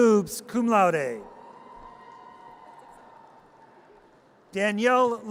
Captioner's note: audience cheers